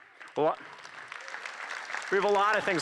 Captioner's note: applause